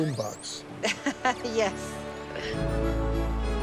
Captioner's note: giggles